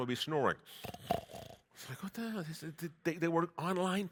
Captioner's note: snores